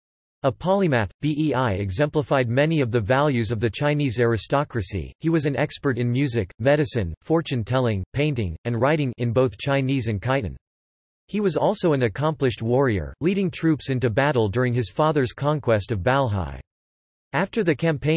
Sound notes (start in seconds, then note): 9.6 in both Chinese and Khitan